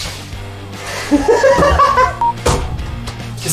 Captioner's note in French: rires